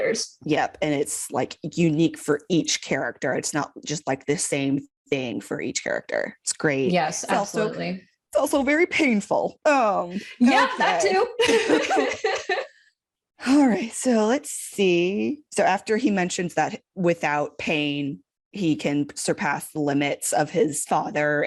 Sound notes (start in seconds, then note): 11.4 sad laughter